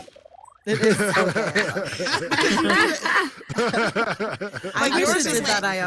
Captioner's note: all laughing and chattering